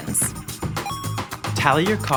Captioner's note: happy video game beeping